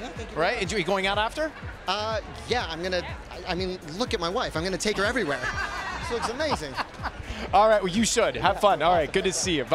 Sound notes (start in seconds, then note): 5.2 laughing